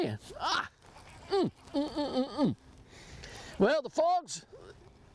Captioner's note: laughs